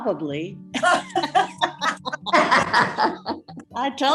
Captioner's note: all laugh